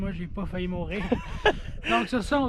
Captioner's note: laugh